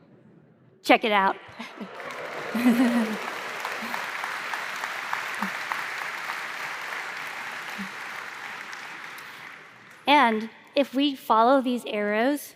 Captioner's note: applause